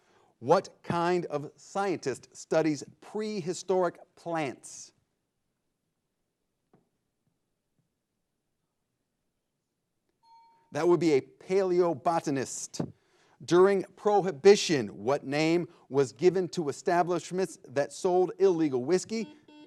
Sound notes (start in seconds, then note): 10.2 bell chimes; 19.1 buzzer blares